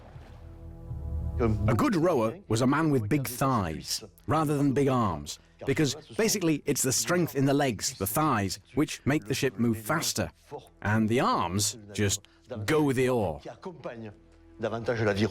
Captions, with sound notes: - [Voiceover] A good rower was a man with big thighs, rather than big arms, because basically it's the strength in the legs, the thighs, which make the ship move faster and the arms just go with the oar.